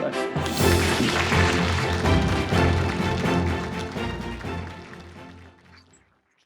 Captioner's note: bright orchestral music; audience applauding